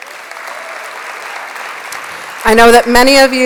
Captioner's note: applause